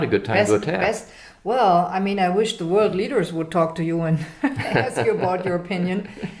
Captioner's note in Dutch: haha